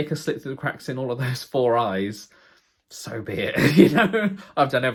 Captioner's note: laughs